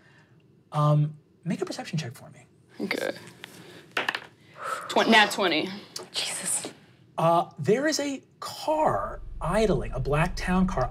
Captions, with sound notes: Make a perception check for me. - Okay. (dice rolling) Nat 20. - Jesus. - There is a car idling, a black town car